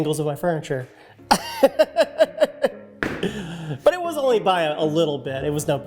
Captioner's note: laughs